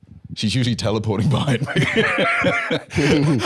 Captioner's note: laughs